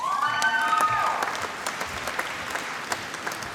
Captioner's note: applause